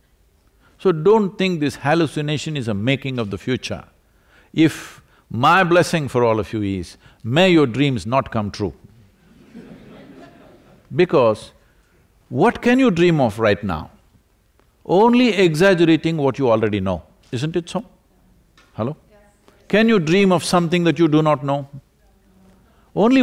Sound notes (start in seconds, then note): 9.2 laughter